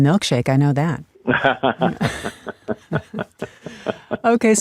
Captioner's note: laughs